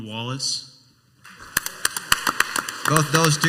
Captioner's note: crowd applauds